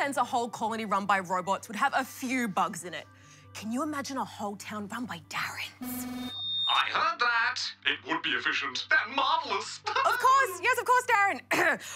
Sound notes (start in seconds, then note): 5.8 feedback whines; 11.5 coughs